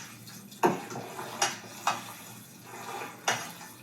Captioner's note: pot clattering